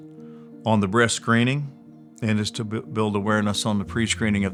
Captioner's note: engine rumbling